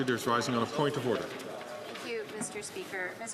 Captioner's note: applause